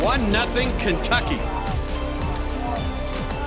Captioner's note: applause